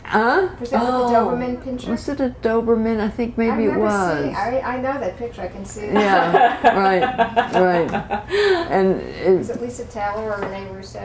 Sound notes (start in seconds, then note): 6.0 laughter